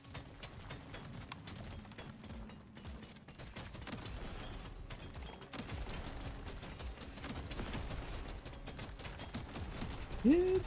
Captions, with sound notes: oh oh i hope this plan works. i hope this plan works. meow, yah, yah! *laughs*